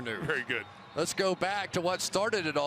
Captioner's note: laughing